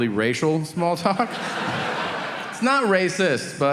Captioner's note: audience laughing